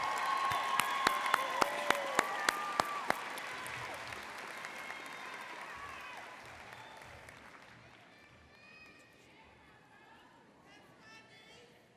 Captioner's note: applause